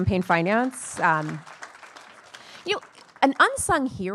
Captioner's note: attendees applauding